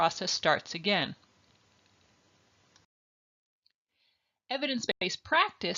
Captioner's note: silence